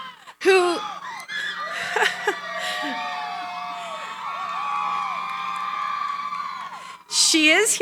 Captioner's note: cheering